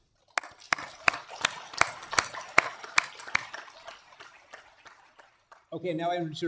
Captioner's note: applause